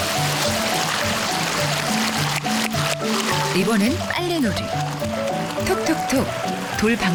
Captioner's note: applause